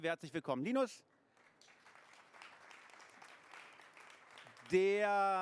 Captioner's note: applause